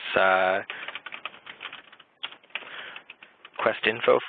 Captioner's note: typing